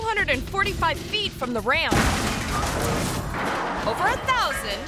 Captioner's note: car crashes; ramp clangs